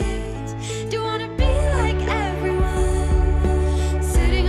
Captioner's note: echo